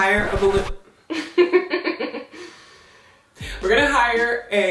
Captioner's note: laughing